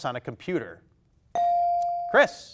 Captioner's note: buzzer dings